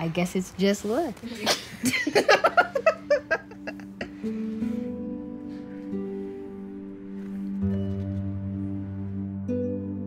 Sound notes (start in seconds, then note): 1.4 chuckles; 4.4 instrumental music